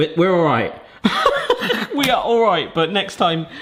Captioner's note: laughing